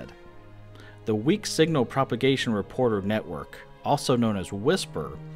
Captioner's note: whisper